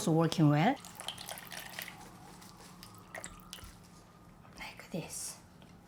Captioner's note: water trickles